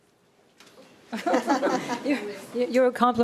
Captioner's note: panel laughing